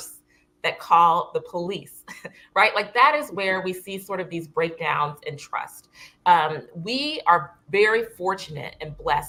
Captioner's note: laughter